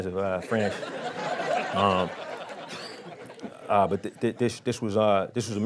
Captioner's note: crowd laughing